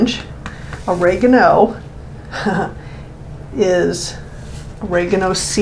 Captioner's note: chuckles